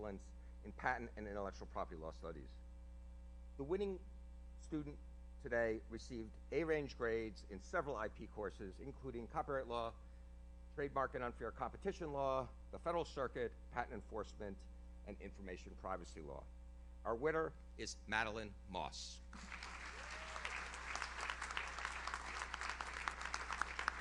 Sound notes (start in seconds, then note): 19.9 audience member cheers; 20.9 audience applauds